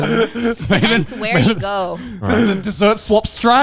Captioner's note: laughing